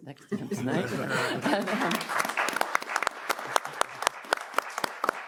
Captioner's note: audience applauds